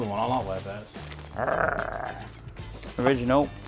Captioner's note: growls